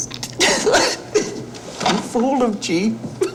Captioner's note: laughing